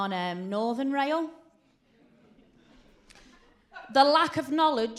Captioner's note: silence